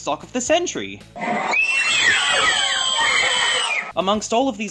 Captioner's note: screaming